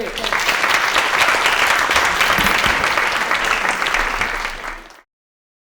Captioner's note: applause